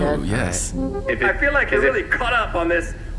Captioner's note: playback-start noise